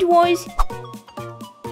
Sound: woosh!

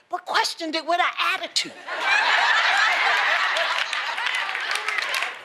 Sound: laughter

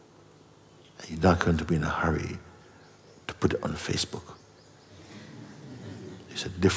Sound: laughter

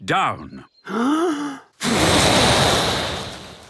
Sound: inhaling deeply; blowing

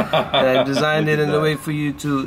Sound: laughs

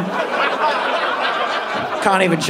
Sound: audience laughing

